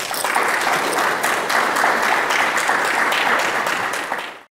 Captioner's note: audience applause